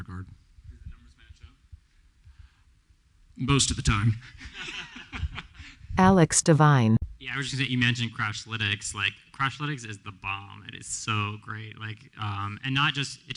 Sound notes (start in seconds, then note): 4.1 laughter; 4.4 laughs